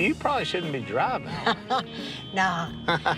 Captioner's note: laughs; laughter